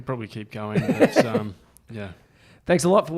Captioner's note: laughs